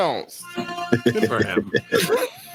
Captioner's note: laughs